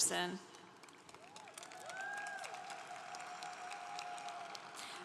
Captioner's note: congregation applauding